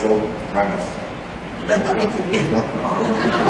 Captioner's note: laughter